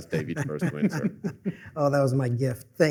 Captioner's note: laughter